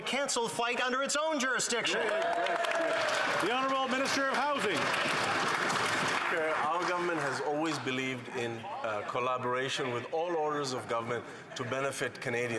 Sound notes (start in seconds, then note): 6.9 applause